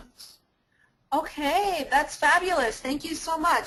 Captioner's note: voiceover